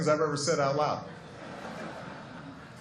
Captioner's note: laughter